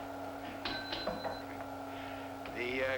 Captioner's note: bell ringing